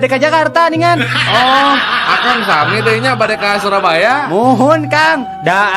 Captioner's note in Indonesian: tertawa